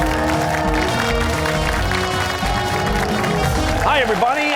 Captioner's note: cheers and applause